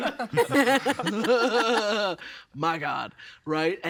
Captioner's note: all laughing